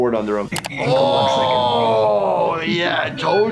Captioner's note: computer mouse clicking